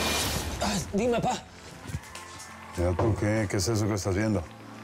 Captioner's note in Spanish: Alboroto en la TV